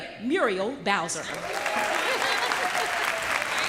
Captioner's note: applause